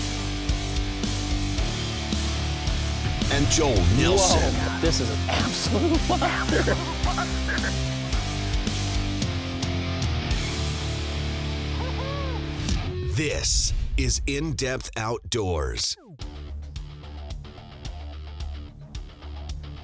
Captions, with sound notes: - [Voiceover] And Joel Nelson - [Voiceover] This is an absolute - [Voiceover] This is In Depth Outdoors. (upbeat music)